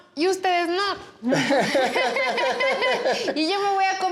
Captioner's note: both laugh